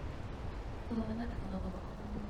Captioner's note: ethereal voice